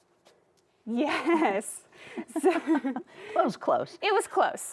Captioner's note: both chuckle